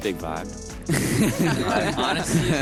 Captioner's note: laughter